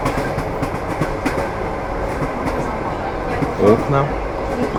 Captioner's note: train wheels clatter